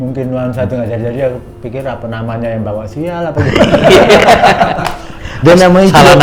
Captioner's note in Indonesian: tertawa